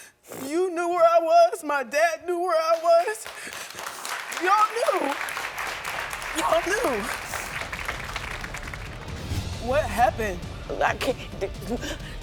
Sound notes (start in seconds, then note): 3.0 audience applauding; 6.6 dramatic music